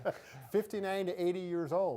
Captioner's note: both laugh